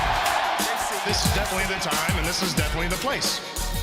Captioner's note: crowd cheering